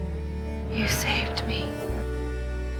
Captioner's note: voiceover